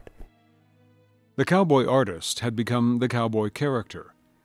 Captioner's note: voiceover